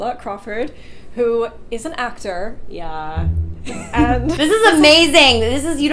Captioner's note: laughs